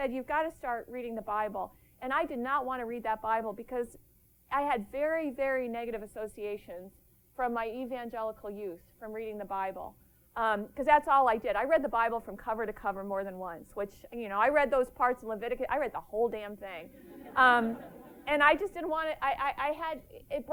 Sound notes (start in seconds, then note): 16.9 laughter